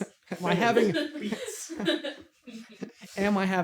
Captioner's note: laughter